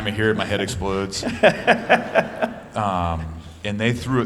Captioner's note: laughter